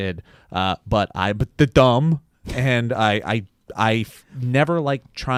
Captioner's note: stutters